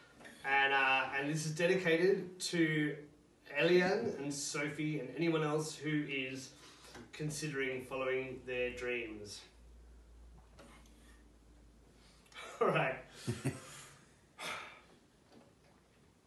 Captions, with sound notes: And this is dedicated to Eliane and Sophie and anyone else who is considering following their dreams. Alright. (Deep breath).